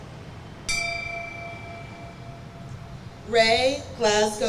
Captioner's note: bell rings